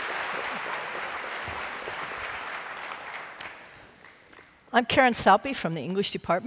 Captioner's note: applause